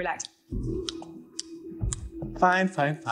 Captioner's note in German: Klicken